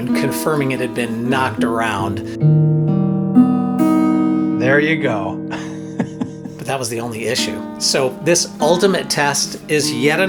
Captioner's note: laughs